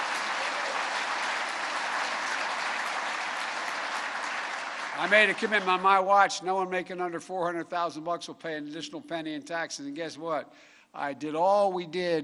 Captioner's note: applause